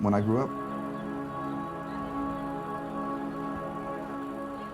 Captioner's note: film reels spinning